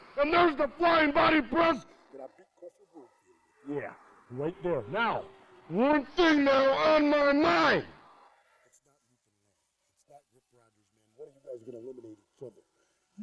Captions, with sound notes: And there's the flying body press. Yeah, right there. (speaks angrily) Now, one thing now on my mind. What are you guys going to eliminate each trouble?